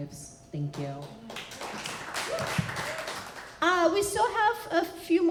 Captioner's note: applause